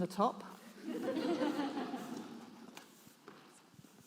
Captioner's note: audience laughs